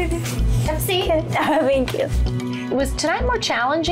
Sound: giggles

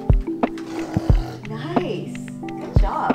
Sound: blows raspberries

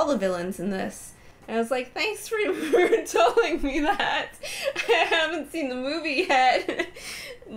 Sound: laughing

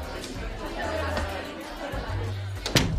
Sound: murmuring

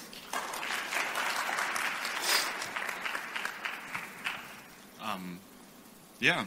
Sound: applause

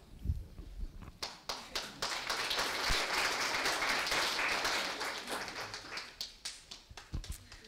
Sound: applause

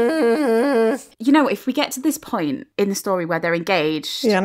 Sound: both humming

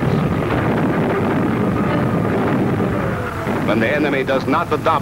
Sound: explosions booming

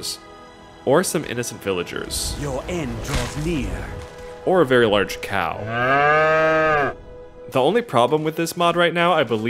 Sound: moo

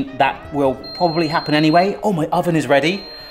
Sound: oven timer beeps

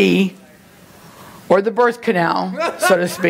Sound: laughing from congregation

